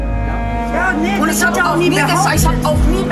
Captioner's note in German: Wütendes Stimmengewirr